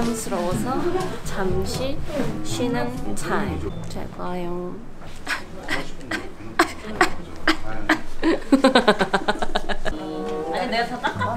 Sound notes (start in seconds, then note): 5.2 sobs